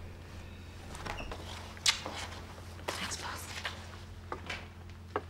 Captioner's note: kissing